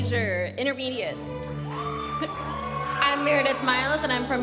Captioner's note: audience cheering and applauding